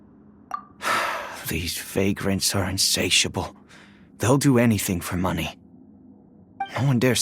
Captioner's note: sigh